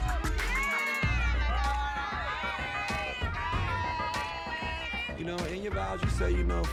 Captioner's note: people yelling at once